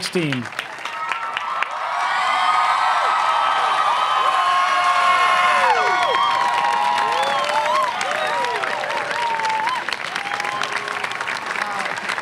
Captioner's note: cheering and applause